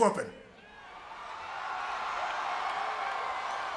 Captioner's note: audience cheering